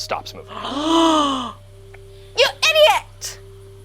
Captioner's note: gasps